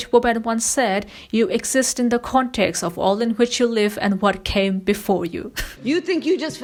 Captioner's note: laughs